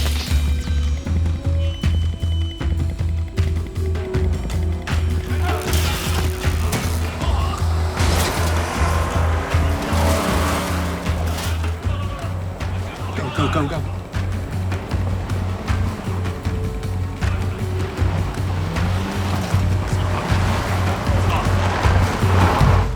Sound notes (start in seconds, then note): 0.0 electricity crackling; 0.3 low suspenseful music continues; 5.6 electricity crackling; 5.6 men yelling; 8.2 vehicles rumbling; 14.6 low suspenseful music continues; 19.0 vehicle rumbling